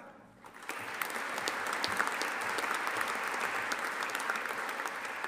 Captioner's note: audience applauding